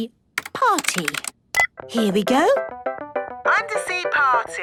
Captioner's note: beep